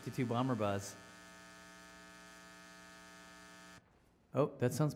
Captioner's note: electric buzzing